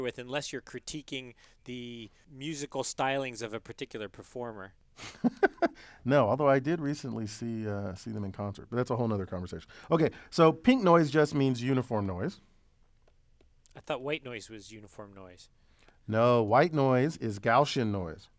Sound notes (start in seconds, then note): 5.0 laugh